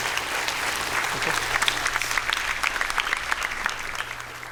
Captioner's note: applause